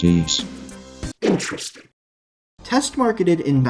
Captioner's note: in a distorted, warbled voice